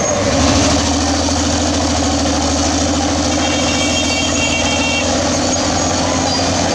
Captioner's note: bulldozer Turbo Sound